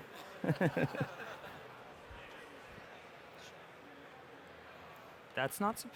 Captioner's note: laughter